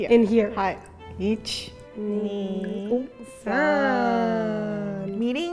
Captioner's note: speaking in Japanese